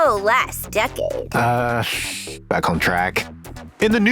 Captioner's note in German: räusper